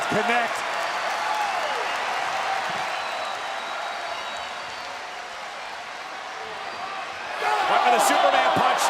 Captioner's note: applause